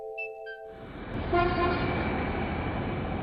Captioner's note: truck horn